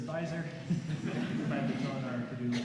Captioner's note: laughter